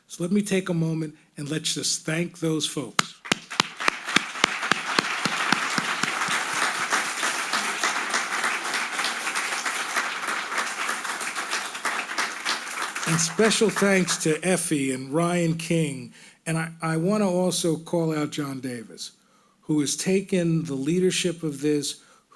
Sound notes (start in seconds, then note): 3.7 all applauding